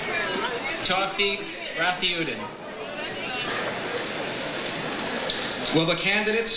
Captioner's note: overlapping chatter